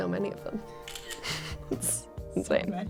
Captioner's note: camera shutters